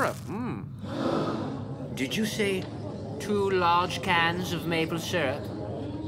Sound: gasps and background reactions

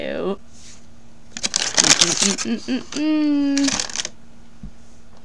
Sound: bag crinkling; warningly

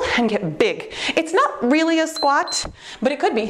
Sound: timer beeps

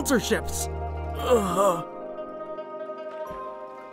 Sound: groaning

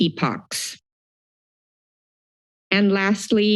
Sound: silence

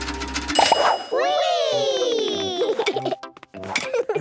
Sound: pings

